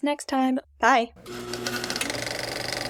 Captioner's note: film projector whirring